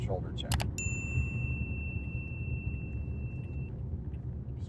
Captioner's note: clicking sounds; ring sound